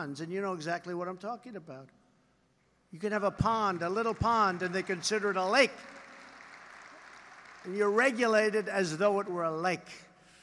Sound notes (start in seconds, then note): 6.2 applause